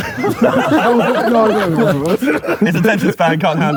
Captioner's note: group laughing